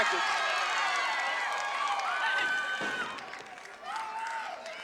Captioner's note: audience cheering